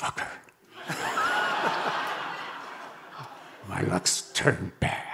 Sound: audience laughing

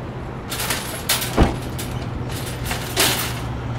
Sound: metallic clattering noises

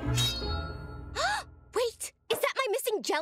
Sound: gasping

